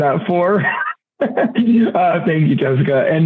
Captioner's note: laughing